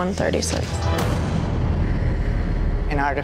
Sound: impact slamming

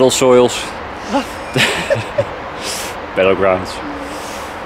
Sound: laughs

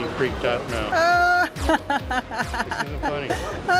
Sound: laughs

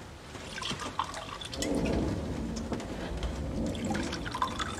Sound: thunder rumbles

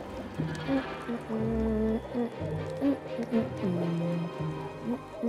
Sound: boiling sounds; humming

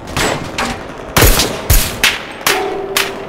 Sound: suppressed carbine fire

